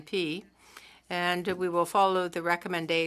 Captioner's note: speaking French